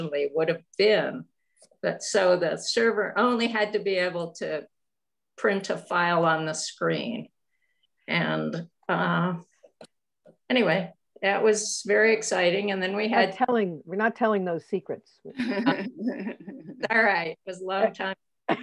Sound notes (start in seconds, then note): 15.3 laughter